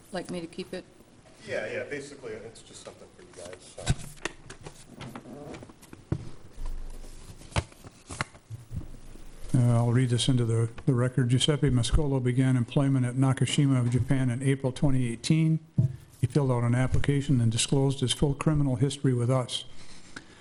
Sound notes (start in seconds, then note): 5.3 papers shuffling